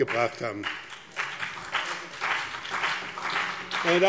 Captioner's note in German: Beifall BÜNDNIS 90/DIE GRÜNEN und CDU